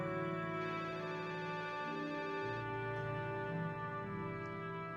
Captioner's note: phone rings